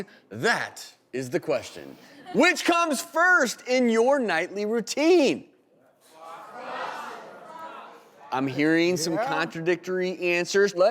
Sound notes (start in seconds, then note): 6.1 audience shouting